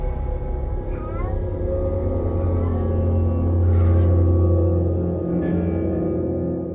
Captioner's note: intense music; soft sound of a baby